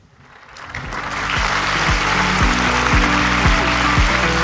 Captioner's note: audience applauding